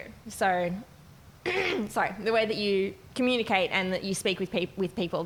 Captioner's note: clearing throat